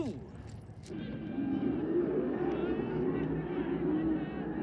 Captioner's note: chattering